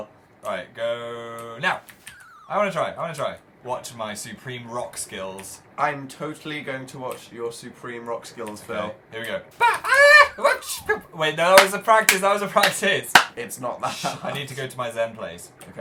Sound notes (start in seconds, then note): 13.0 claps sarcastically; 13.8 laughing